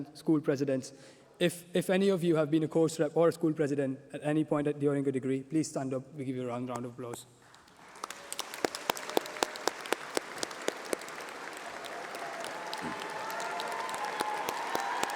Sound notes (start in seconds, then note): 12.2 applause